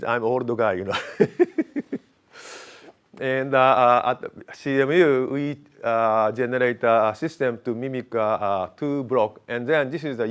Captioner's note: laughs